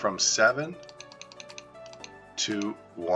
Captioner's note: clicking